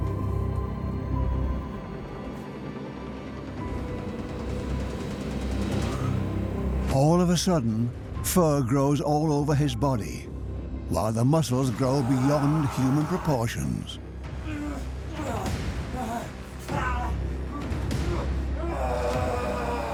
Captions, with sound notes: All of a sudden, fur grows all over his body, while the muscles grow beyond human proportions. (he groans) (groaning intensifies)